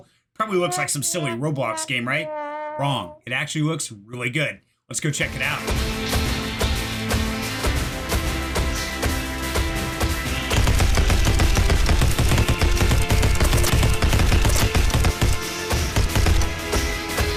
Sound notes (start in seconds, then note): 5.7 music, Mech Walking, Gunfire